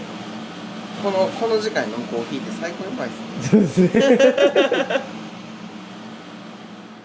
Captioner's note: laugh